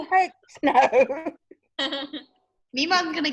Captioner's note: laughs